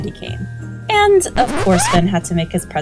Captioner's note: record scratches